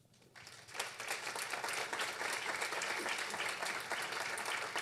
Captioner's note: audience clapping